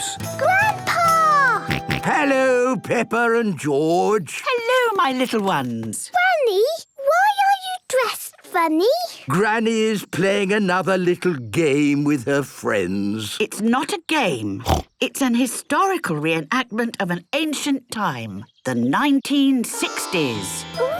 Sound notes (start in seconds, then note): 1.6 George snorts; 14.6 snorts